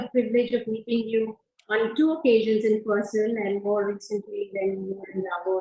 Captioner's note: audio disturbance